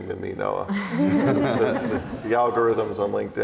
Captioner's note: laughs